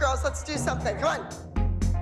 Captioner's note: none